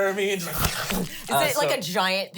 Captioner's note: imitates snarfing loudly